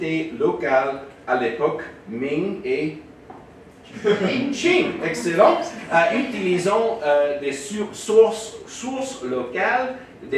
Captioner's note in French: rires